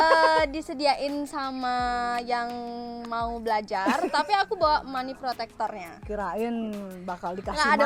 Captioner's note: laugh